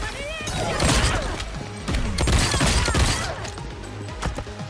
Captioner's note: gun firing